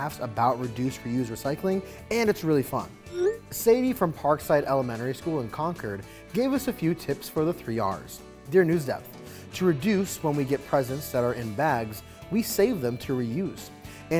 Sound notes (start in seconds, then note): 3.1 message whooshing